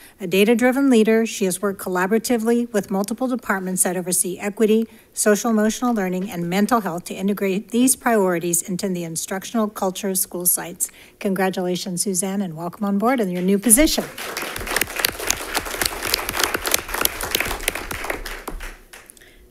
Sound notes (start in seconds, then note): 13.9 congregation claps